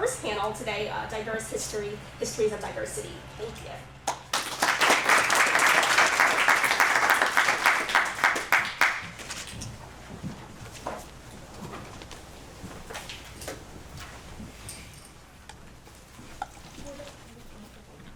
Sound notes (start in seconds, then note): 4.0 applause